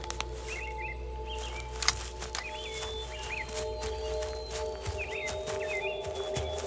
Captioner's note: birds chirping; footsteps thudding